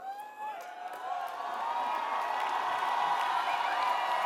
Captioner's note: cheering and applause